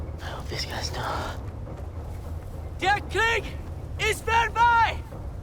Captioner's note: speaking foreign language